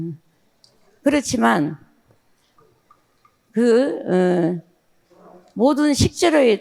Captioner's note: speaking in foreign language